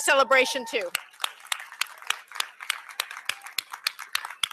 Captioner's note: applause